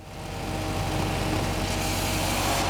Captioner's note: whirring and drilling sounds